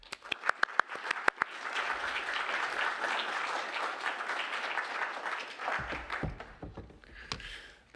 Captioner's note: applause